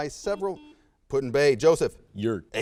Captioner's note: buzzer sounds